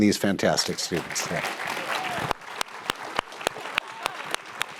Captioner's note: audience clapping